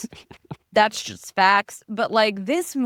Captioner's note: laughing